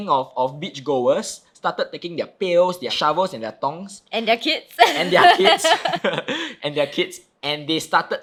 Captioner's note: laughing